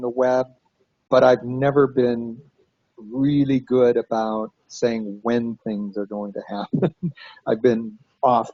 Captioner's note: laughs